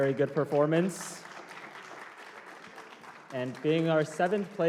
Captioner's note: applause